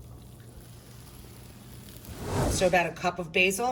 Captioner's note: griddle sizzling